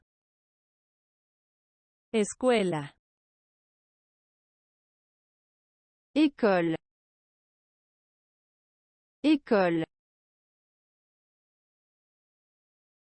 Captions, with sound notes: [Spanish] School. [French] School. [French] School.